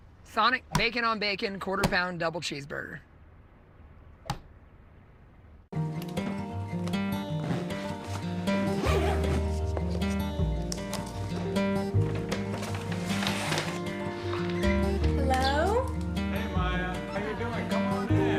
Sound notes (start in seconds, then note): 5.9 upbeat, acoustic guitar; 10.0 zipper closing bag; 14.6 bag rattling